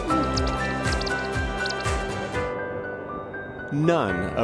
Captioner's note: bird chirping